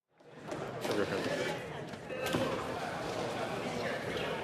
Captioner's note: none